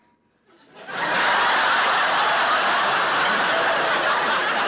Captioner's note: audience laughing